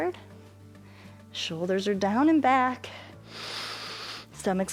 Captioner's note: inhales